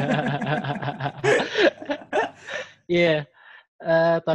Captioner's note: laugh